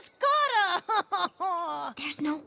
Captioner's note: cries